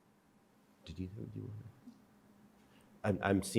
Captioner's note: faintly speaking